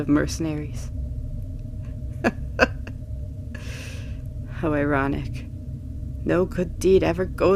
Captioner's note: laugh